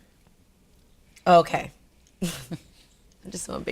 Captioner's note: laughs